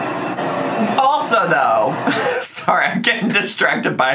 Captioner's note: laughs